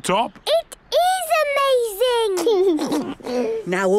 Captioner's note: George giggles